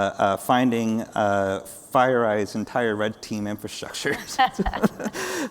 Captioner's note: laughs